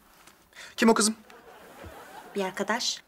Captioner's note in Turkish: Gülme efekti